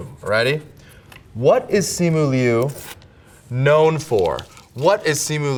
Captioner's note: paper rips